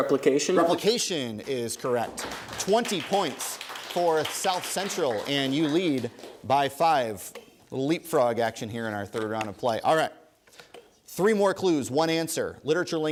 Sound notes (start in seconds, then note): 0.8 applause